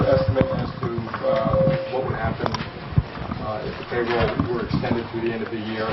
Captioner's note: reporter talking